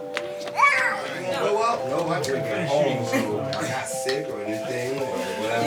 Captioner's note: group chatter